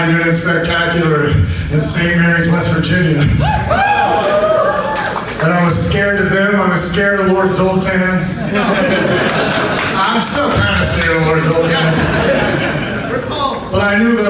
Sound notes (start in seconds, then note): 3.4 audience whoops; 8.3 audience laughs